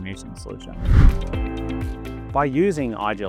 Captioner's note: air whooshes; upbeat music continues